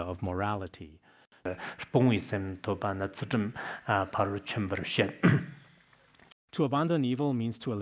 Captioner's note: citing scripture in Tibetan